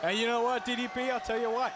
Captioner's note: crowd chatter